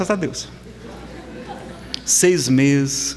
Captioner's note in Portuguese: risadas